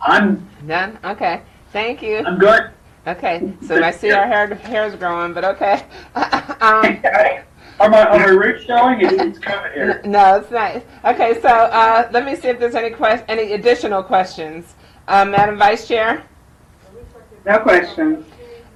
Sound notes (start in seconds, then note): 5.7 laughs